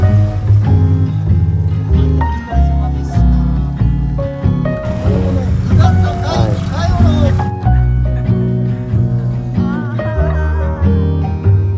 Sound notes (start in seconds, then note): 7.8 laughs